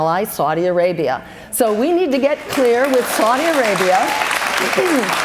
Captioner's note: cheers and applause